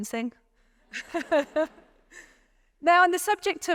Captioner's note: laughing